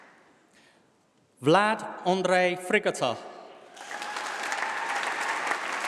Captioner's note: applause